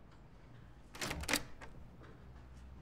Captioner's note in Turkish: Kapı Açılıyor